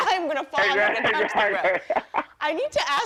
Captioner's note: laughs